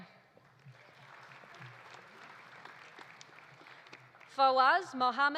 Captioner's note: audience applauding